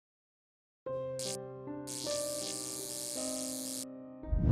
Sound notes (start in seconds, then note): 0.1 suspense music; 1.9 lights flickering